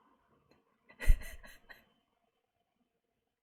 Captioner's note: laughs